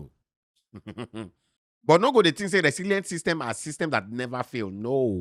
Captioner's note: chuckles